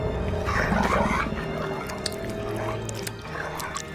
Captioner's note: zombie spartacus gurgling